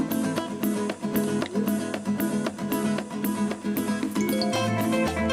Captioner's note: cellphone dings loudly